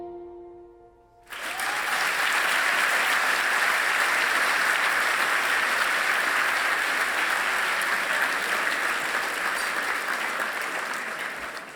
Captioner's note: applause